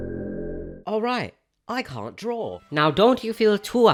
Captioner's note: creepy droning sound